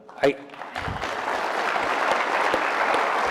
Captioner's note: applause